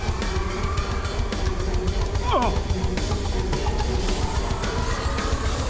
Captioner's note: suspenseful music; follower grunting; suspenseful music